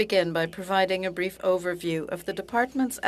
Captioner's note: speaking French